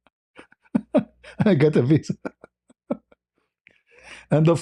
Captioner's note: ketawa